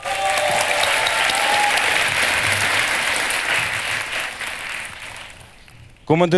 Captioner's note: the audience cheers